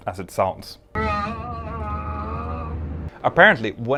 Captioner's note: groaning over plane's PA system